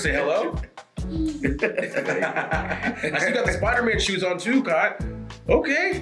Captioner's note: laugh